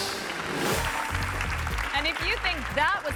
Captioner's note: audience applauding